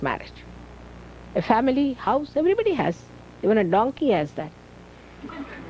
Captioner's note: laughter